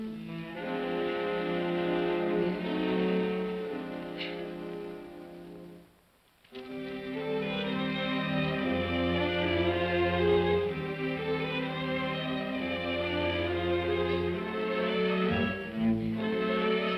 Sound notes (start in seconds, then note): 0.3 ominous music; 4.0 woman sobs; 6.6 ominous melancholy music